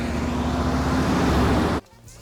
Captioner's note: tires screeching; van revving